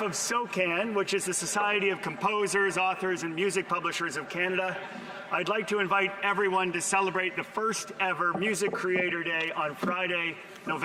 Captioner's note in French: voix de l'interprète